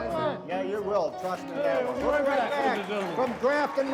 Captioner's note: everyone applauds and cheers